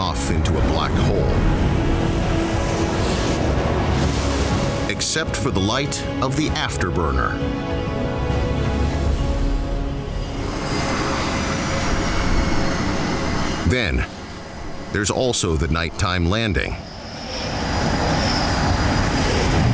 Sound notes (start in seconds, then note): 7.3 intense music; 8.8 plane whizzing; 16.4 plane whizzing